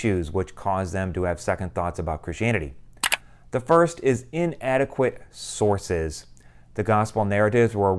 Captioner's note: mouse click